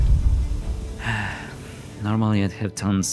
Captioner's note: sigh